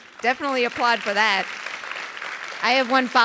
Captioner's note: audience applauding